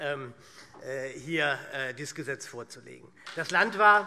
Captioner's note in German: Beifall SPD